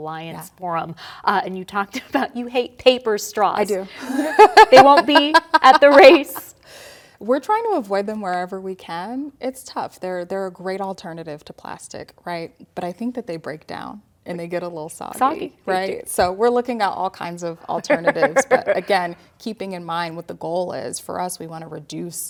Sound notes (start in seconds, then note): 4.1 laughter